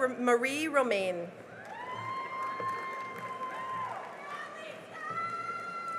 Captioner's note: cheering and applause